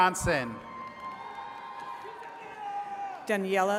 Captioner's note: attendees cheering